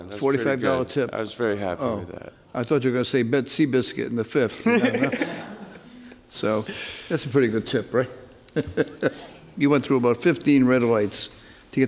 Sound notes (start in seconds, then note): 4.6 laughing; 8.4 chuckles